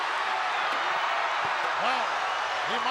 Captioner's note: crowd cheers